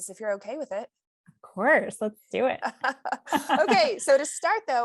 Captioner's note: laughter